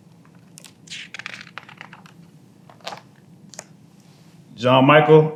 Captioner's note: pages rustling